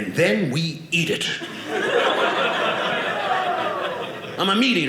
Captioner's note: audience laughing